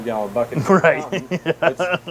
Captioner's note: laughing